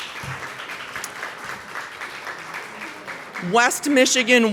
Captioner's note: applause